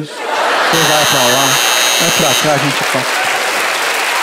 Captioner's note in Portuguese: campainha